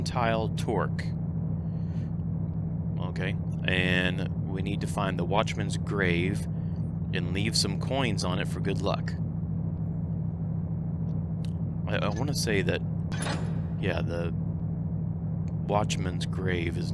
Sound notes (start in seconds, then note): none